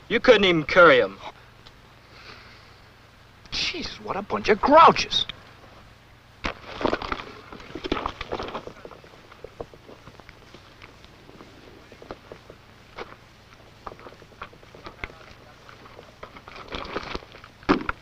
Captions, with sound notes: You couldn't even carry them. - Jeez, what a bunch of grouches. [crunching] [footsteps] [crunching]